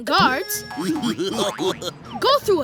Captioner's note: giggling